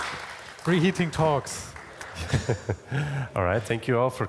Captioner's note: both laugh